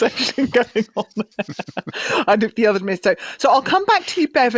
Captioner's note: laughs